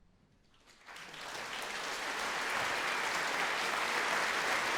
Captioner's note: applause